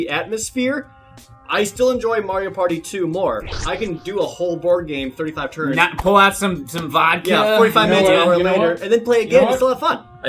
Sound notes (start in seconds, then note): none